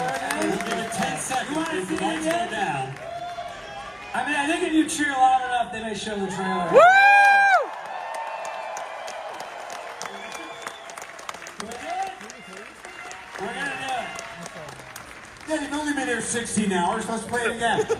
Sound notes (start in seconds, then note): 11.0 screaming; 12.1 cheering; 13.0 applause